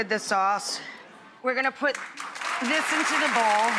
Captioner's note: audience applauds